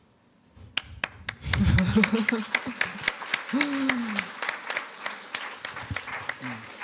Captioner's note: applause